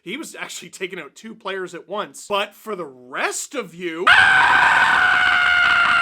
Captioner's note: screams